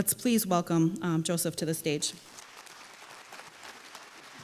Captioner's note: applause